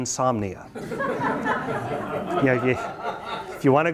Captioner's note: students laugh